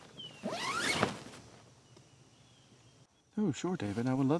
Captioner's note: tent rustling; zipper whizzes